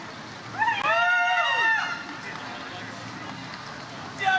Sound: audience cheers

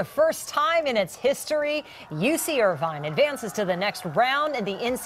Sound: cheering

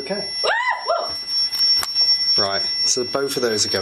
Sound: screams

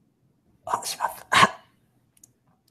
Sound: speaking japanese

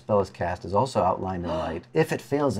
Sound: gasps

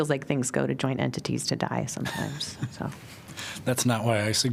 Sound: laughter

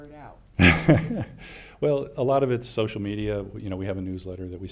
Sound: laughs

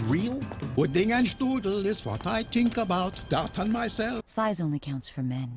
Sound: German noises

